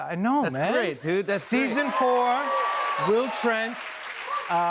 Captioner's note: cheers and applause